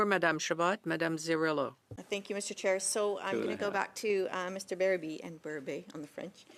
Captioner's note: speaking French